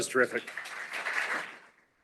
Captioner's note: applause